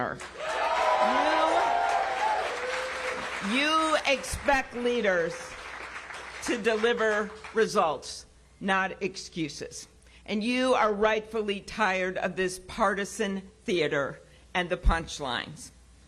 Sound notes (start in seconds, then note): 7.8 applause